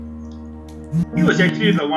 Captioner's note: phone notification